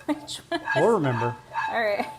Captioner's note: laughs